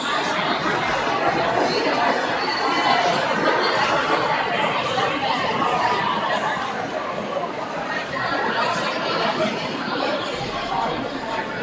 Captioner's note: crowd chattering